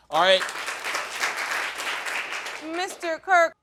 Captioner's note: audience applauding